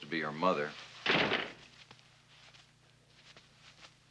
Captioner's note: door closing